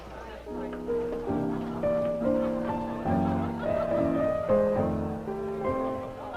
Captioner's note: guests chatting softly; light piano music playing